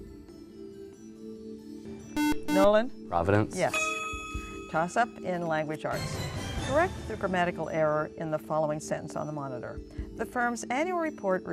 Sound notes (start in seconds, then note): 2.1 buzzer